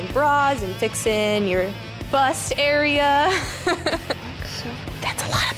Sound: laughs

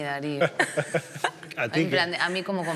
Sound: some laugh

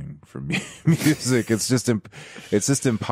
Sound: laughs

